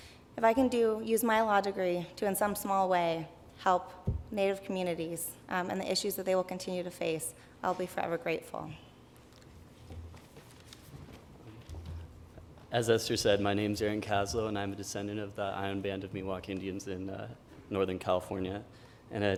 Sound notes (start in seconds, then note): none